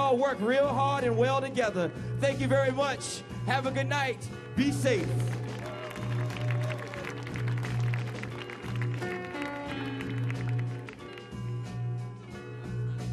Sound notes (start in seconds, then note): 5.1 audience applauding; 9.2 slow relaxing music